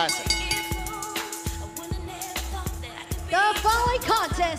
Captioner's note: bell ringing